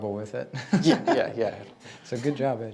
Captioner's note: laughing